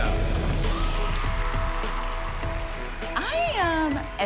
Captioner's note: cheering